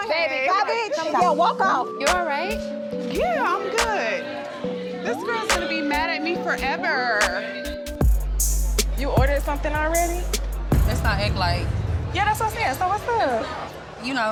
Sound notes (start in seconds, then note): 1.2 tense hip-hop music; 3.9 people chattering; 8.1 thumping hip-hop music